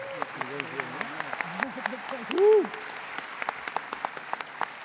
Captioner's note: applause